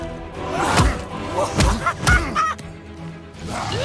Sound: maniacal laughter

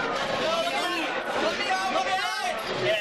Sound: people cheering

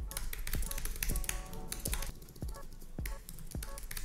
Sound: keyboard clicking

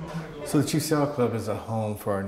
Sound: voiceover

